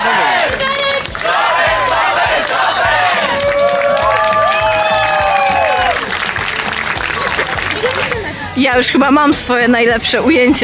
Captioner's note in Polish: Aplauz